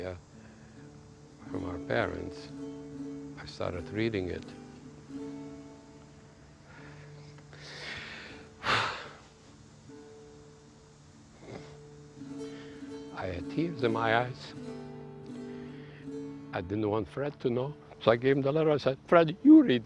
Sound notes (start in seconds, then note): 6.6 sighs